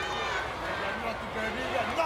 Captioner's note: crowd shouts